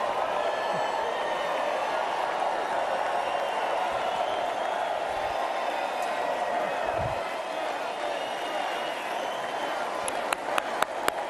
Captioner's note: cheers and applause